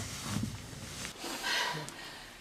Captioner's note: still out of breathe